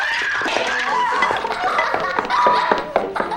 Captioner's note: giggling